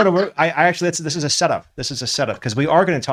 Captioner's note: laughs